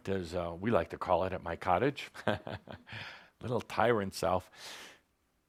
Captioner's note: chuckles